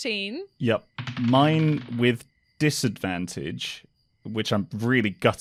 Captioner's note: dice thumps